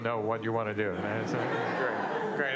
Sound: laughter

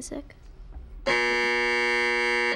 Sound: buzzer sounds

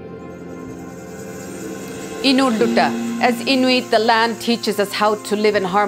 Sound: speaks foreign language

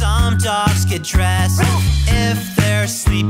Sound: dog bark

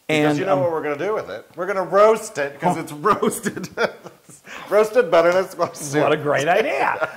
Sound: laugh

